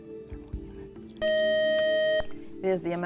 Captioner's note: buzzer